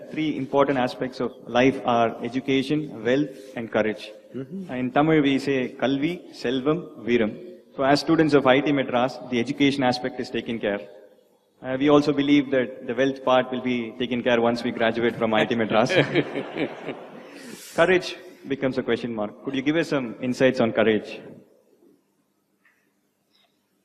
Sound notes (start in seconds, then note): 15.4 laughter